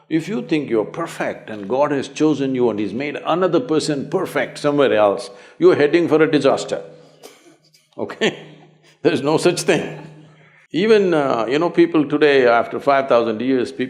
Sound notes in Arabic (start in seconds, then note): 9.6 يضحك